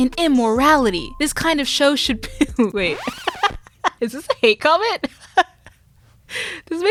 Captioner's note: laughter